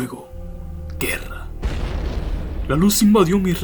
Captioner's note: explosion